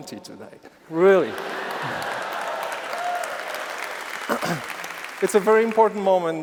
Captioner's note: applause